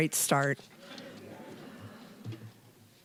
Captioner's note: audience chuckling